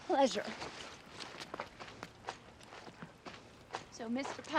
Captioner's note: footstep